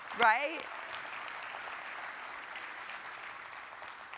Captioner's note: audience applauding